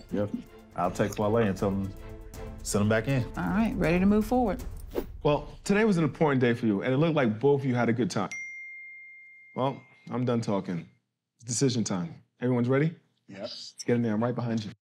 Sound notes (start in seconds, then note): 7.8 phone chimes